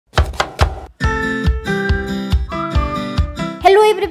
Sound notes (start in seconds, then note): 0.1 chopping; 0.1 happy music